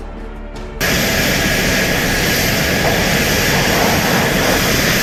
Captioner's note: plane engine droning